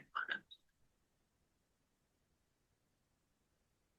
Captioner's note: audio cuts out